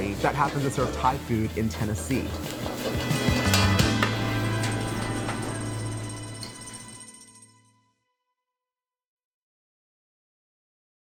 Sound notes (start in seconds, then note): 3.4 utensil tapping